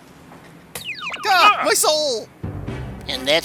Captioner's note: yelps